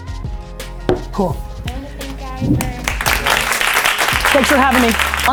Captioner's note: applause